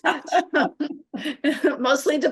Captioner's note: laughter